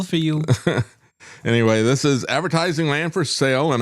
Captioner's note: laughs